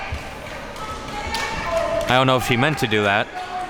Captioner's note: buzzer blaring